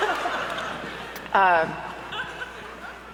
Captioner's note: laughter erupts